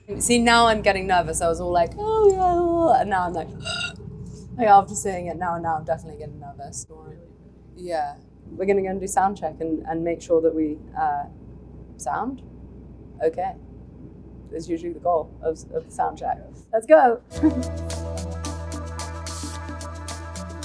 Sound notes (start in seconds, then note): 3.5 gasps; 17.3 mellow music